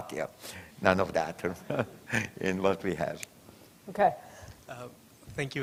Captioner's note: chuckles